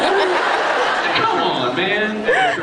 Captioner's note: laughs